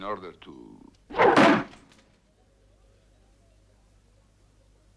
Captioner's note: knife thuds